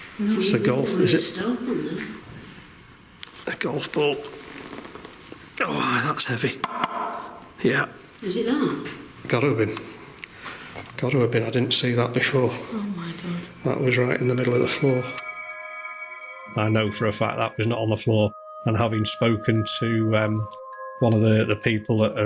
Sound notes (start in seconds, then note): 1.6 speaking quietly; 6.6 golf ball knocking